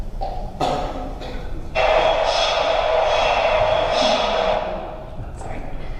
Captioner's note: MRI noise starts and stops unexpectedly